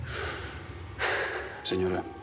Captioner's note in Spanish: Suspiros